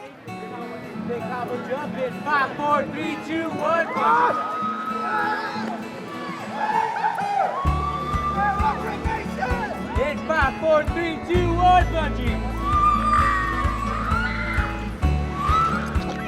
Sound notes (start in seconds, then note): 3.9 screaming; 12.6 screaming